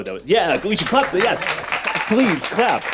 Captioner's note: audience applauds